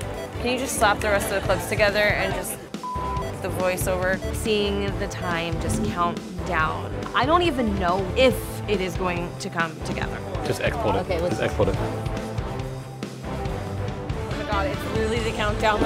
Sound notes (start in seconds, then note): 2.8 beep; 12.1 intense music